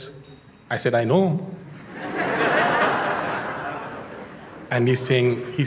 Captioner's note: Lachen